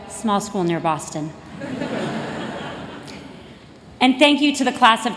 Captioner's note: laughter